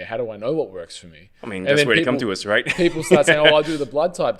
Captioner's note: laughs